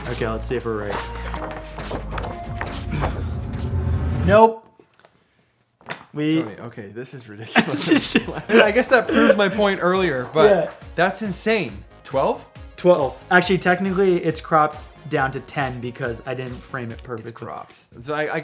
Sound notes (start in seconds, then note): 7.4 laughs